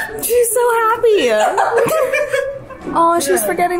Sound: laughs

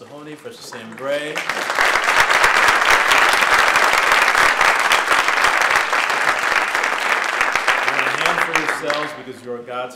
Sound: applause

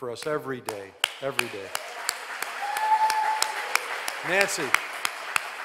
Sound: all applauding

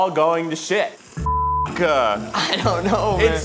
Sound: beep

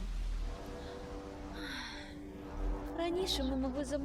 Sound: sighs

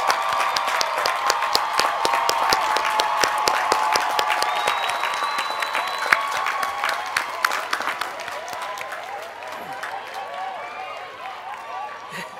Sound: cheers and applause; laughter

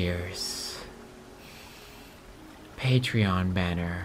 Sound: inhale

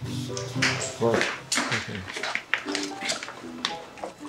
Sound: shoes clicking

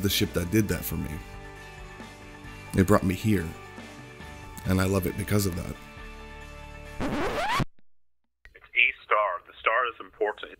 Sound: record scratch

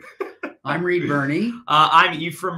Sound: laughing

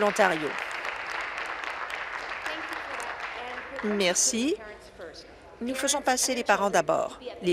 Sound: applause

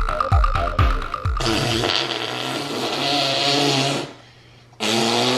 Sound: blowing raspberries

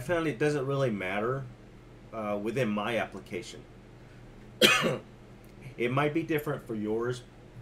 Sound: cough

